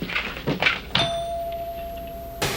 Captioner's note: bell rings